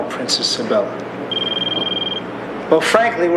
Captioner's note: phone ringing